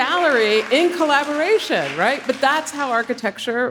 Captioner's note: audience applauding